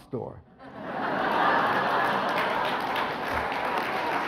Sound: audience laughs; audience applauds

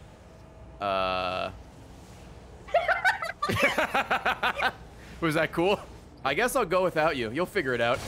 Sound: laughs; laughs

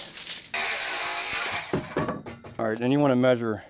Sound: blade whirs

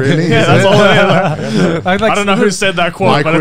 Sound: everyone laughs

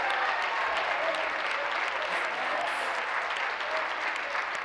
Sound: applause; cheers; continued applause

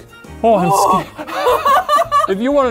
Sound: laughing

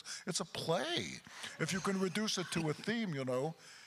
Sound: crowd chuckles

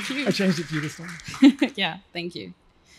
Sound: laughs

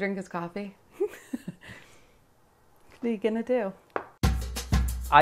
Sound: laughs

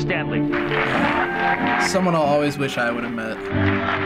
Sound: audience applauds and cheers

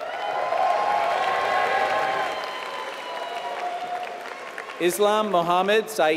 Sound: applause

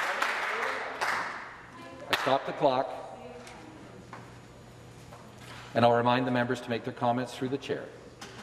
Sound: some Applause

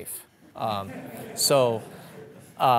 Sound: audience laughing

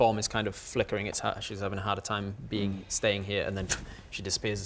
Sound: pff

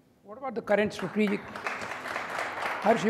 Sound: audience applauding

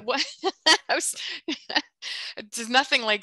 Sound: laughs

